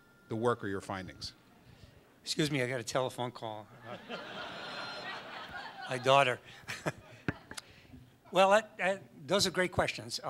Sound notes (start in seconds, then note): 3.8 audience laughs; 6.5 laughs